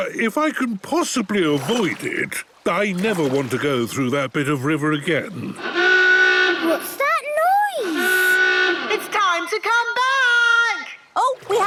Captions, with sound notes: - Uh, if I can possibly avoid it, I never want to go through that bit of river again. (horn honking) - What's that noise? (honking) - It's time to come back!